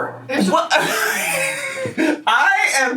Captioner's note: laughs